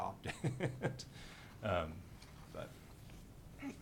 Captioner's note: laughing